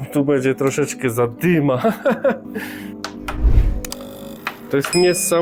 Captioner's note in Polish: śmiech